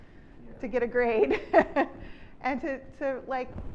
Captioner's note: chuckles